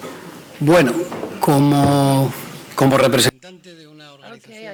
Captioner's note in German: spanisch